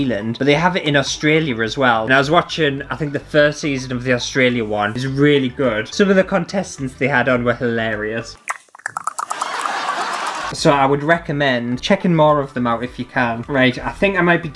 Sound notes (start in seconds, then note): 8.3 licking Sounds